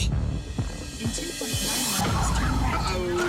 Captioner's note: tires screeching